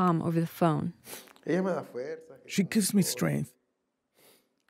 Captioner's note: through translator